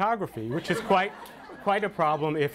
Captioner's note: audience laughter